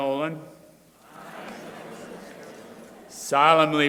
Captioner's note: crowd repeating